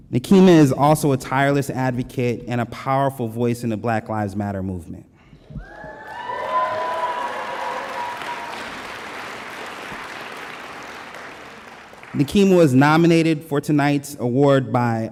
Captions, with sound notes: Nekima is also a tireless advocate and a powerful voice in the Black Lives Matter movement. (audience applause) Nekima was nominated for tonight's award by